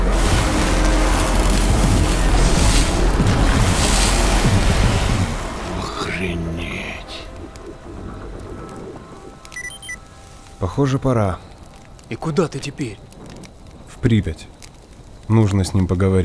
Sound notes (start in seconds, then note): 0.1 electricity crackles; 9.0 electronic beeping